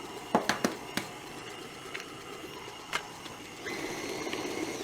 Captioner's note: mixer whirring